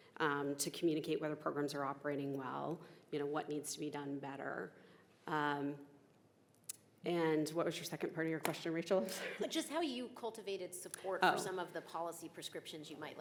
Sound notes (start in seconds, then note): 9.2 chuckling